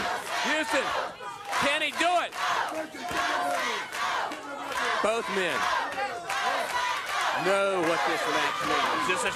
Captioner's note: crowd cheering